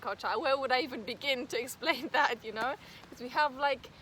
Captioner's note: risos